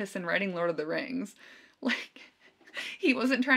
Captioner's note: chuckling